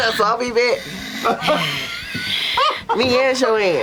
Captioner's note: laughter